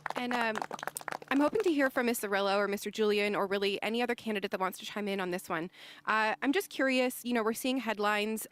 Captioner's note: applause